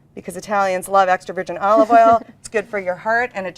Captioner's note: giggles